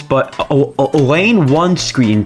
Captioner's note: stutter Moment